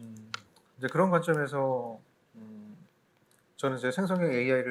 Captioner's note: speaking korean